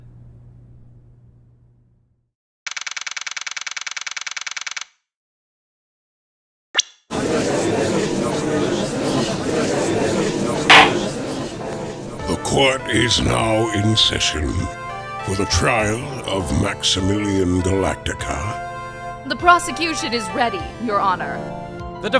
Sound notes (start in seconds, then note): 7.4 gallery chattering; 10.7 gavel slams!